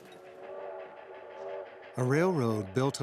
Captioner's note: train engine chugging